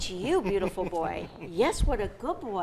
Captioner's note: laughs